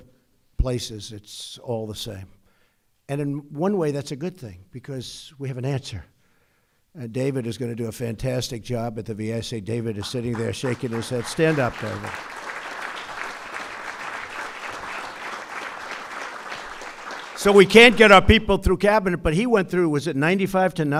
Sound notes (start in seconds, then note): 16.6 applause